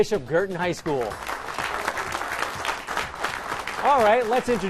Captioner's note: applause